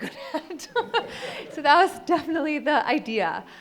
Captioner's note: audience laughs